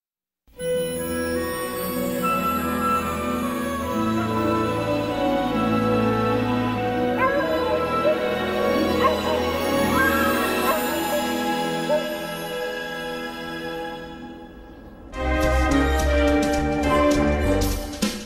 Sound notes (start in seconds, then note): 0.2 wondrous music plays; 7.0 dogs barking